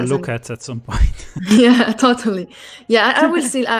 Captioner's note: laughs